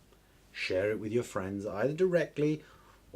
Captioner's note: none